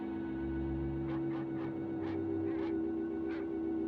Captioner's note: dog barking